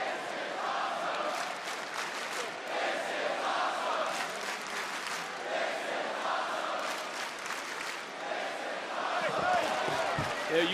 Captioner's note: crowd chants "this is awesome"